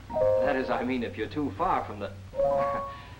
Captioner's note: chuckles